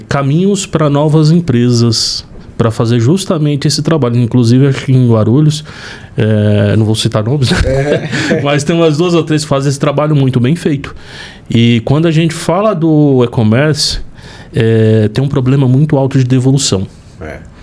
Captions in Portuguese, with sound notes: caminhos para novas empresas para fazer justamente esse trabalho. Inclusive, acho que em Guarulhos, eh, não vou citar nomes, né, [risadas] mas tem umas duas ou três que fazem esse trabalho muito bem feito. E quando a gente fala do e-commerce, eh, tem um problema muito alto de devolução. É,